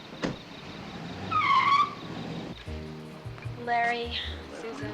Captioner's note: tires screeching